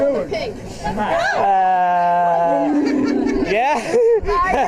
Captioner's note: laughing